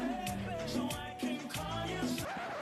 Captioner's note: record scratches